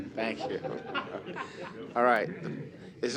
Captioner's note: laughter